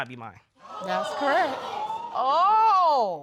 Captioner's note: audience gasps